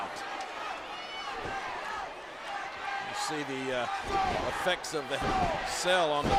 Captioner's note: applause